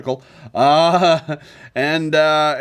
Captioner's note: laughs awkwardly